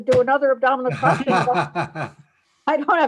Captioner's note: laughs